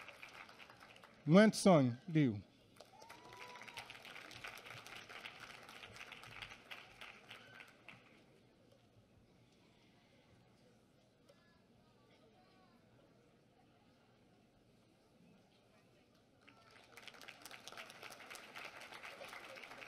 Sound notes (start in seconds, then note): 2.8 applause